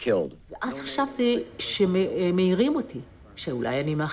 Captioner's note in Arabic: الصوت المنطوق باللغة العبرية